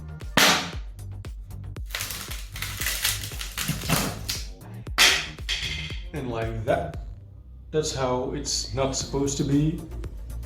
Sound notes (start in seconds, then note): 1.8 crackle